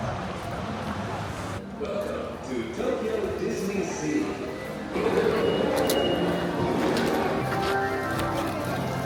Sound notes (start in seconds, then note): 5.2 sensor beeping